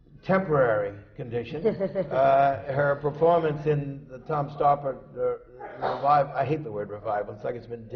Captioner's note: laughs